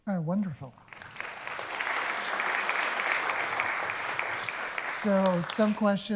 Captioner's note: applause